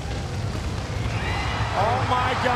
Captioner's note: audience cheering